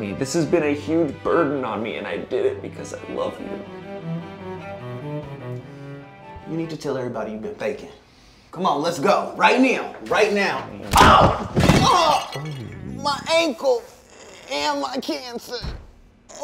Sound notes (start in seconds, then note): 10.9 thud; 11.2 glass breaking crash; 16.2 groans